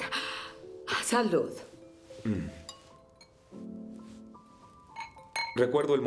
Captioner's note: speaking in foreign language